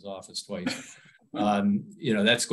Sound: laughs

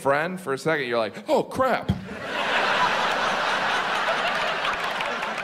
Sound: audience laughs

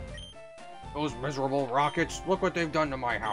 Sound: rough voice

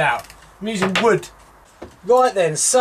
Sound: tapping

